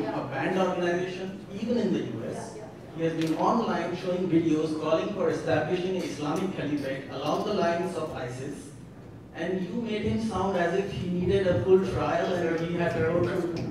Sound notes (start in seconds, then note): 6.6 speaking in foreign language